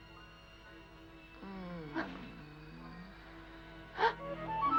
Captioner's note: woman grunts; Jane moans softly; suspenseful music; woman gasps